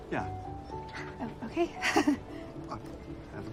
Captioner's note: chuckling